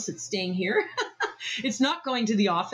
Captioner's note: laughs